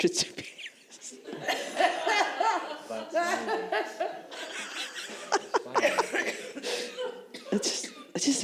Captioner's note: laughter